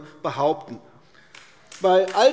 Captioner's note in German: Beifall AfD